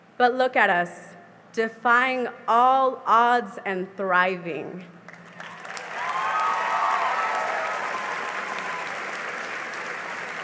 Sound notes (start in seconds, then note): 5.2 cheering and applause